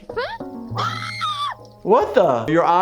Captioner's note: giggles screams